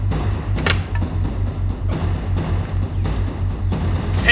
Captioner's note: clatters